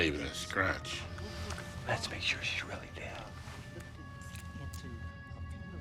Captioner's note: whispers